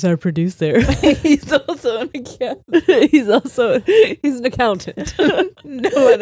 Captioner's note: all laughing